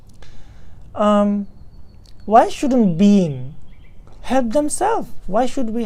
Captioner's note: tibetan